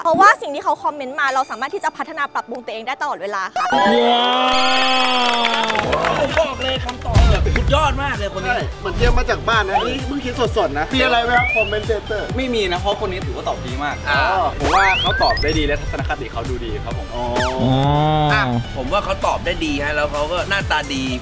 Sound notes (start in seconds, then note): 3.6 cheering; 4.4 applauding